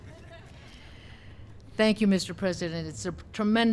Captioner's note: laughter